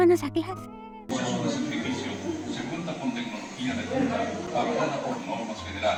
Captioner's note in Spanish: ruido de salón de clases